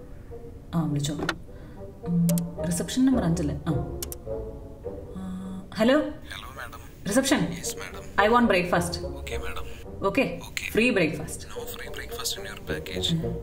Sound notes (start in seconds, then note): none